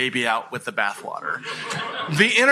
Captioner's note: laughter